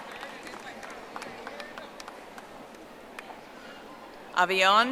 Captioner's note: audience applauding